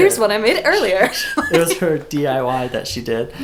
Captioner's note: laughter